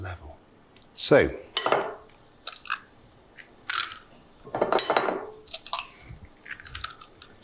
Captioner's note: eggshells cracking